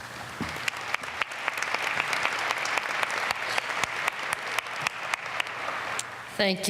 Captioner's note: applause